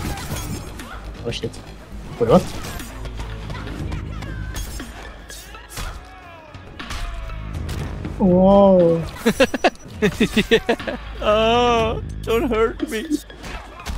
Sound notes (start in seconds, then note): 5.9 aaaaagh